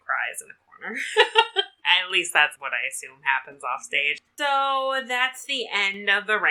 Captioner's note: laughs